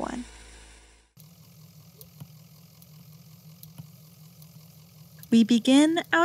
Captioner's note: an engine idles and a blinker clicks over and over